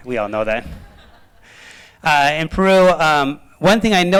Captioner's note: laughter